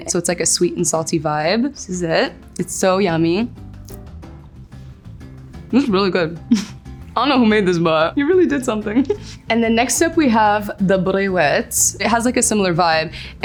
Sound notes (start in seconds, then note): 4.0 faint crunching; 6.4 giggles